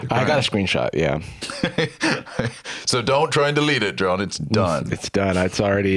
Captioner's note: laughs